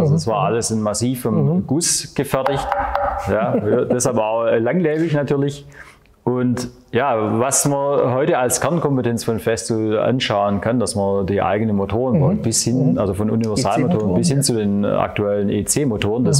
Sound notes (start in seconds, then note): 2.5 knocks